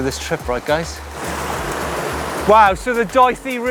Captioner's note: water gurgles